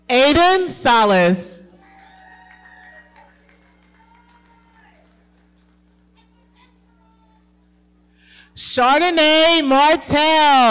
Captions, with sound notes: - Aiden Salas. (audience cheering and clapping) Chardonnay Martel.